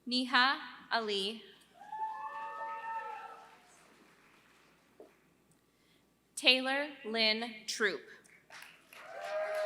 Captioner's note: applause